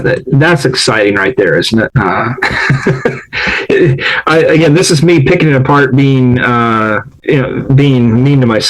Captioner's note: laughs